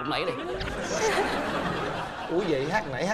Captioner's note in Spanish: risas